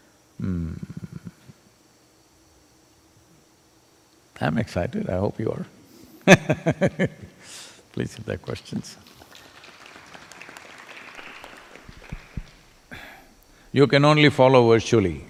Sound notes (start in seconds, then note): 6.8 laughs; 12.0 applause